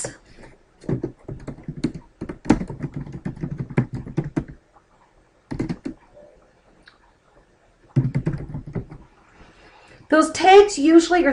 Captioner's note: typing